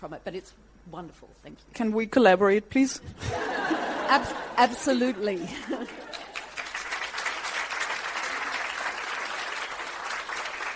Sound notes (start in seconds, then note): 3.2 audience laughs; 5.9 clapping